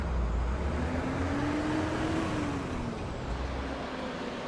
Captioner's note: engine revving